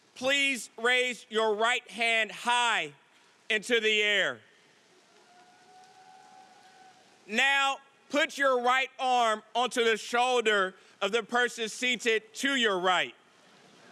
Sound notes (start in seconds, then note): 5.2 audience cheering